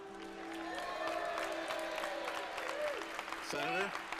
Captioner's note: cheers and applause